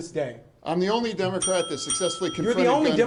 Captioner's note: bell dinging